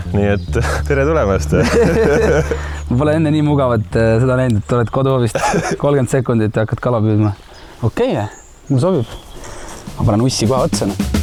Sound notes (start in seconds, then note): 1.7 laughs